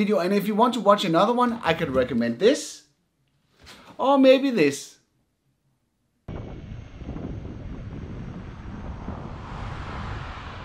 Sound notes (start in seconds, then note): 6.3 wind